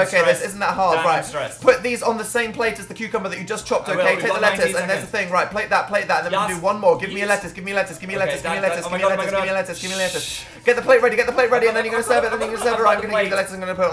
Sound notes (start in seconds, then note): 9.7 shushes